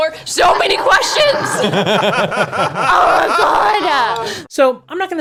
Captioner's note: laugh